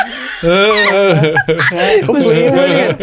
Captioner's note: laughing